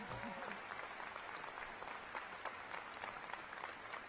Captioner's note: applause